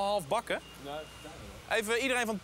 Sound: speaks in foreign language

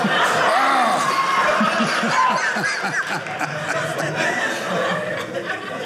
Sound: audience laughing

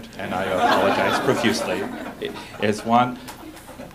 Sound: laughter

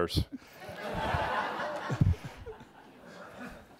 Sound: audience laughter

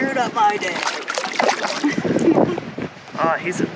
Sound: water splashes; chuckles

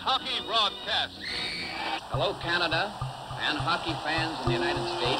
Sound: whistle blows

